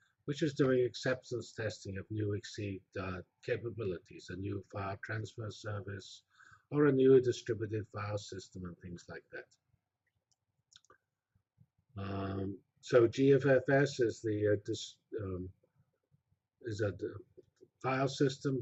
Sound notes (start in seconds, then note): 10.0 pause